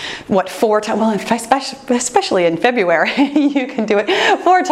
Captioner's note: laughs